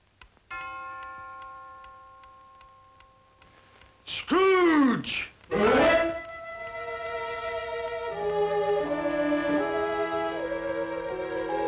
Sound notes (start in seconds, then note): 0.5 bell tolling; 5.6 bright music; 8.9 eerie music